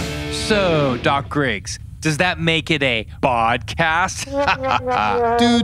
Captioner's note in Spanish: se ríe